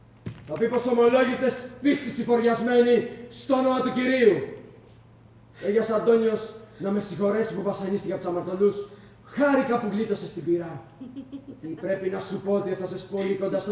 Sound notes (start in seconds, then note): 11.0 γέλιο